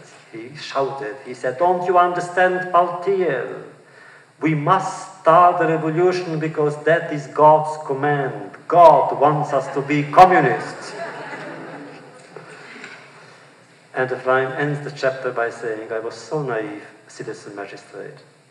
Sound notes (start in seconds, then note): 9.4 laughter